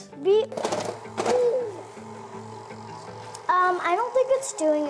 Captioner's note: mixer banging